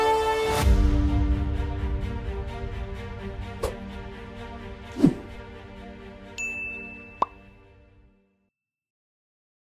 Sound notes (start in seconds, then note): 5.0 logo whooshes; 6.4 logo dings; 7.3 logo pops